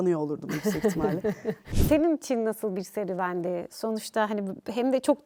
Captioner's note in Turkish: kahkaha